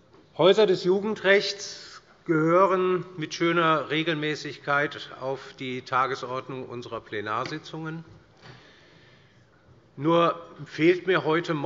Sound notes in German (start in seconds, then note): none